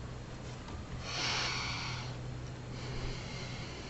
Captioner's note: inhales and exhales